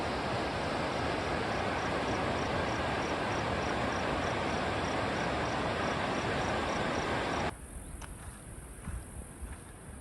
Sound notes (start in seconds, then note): 0.0 water rushing